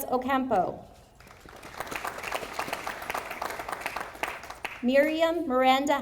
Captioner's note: audience applauding